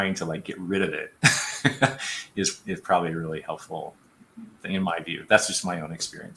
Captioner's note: laughter